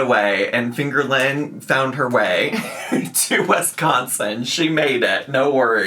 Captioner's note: laughing